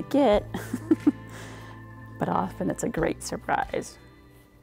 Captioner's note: laughs